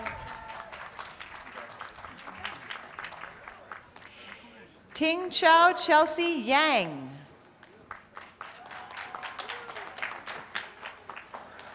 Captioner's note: applause